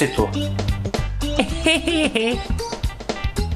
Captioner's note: retarded laughs and waves